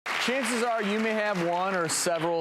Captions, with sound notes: (applause) - Chances are, you may have one or several